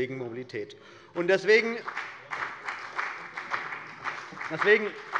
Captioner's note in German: Beifall bei der CDU und dem BÜNDNIS 90/DIE GRÜNEN